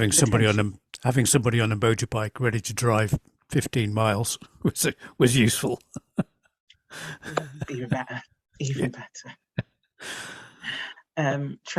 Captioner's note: laughs